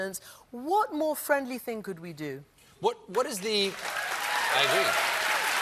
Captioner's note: applause